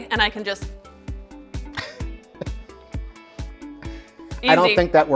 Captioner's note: laughs